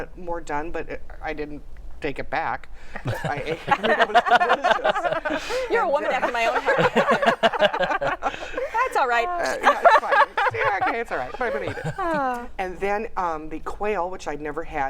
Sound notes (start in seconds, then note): 4.4 laughter; 7.3 laughter